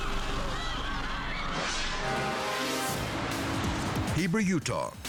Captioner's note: crowd screaming; screen whooshing